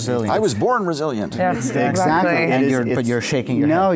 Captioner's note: group murmurs in agreement